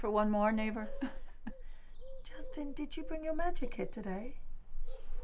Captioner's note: chuckles